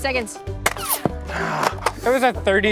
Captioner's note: groans